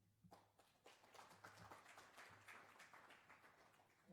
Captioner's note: applause